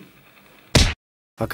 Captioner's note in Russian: звук удара